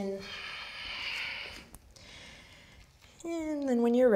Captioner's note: strong breath